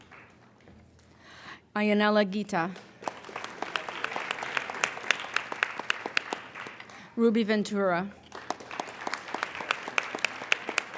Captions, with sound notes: Aienella Guita. (applauding) Ruby Ventura. (applauding)